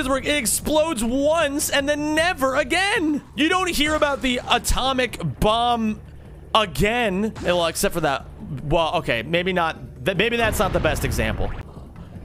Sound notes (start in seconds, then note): none